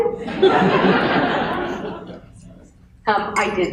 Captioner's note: laughter